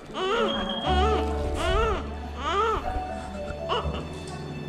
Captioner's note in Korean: 너무 우렁차게 잘 울고 있음